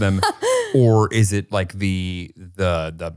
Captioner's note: laughing